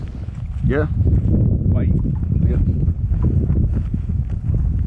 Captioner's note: wind blowing